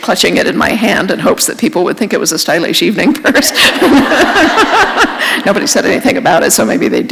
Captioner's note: laughter